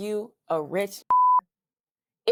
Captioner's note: beep